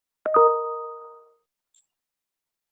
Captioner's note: beep